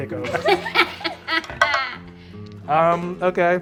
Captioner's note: cackling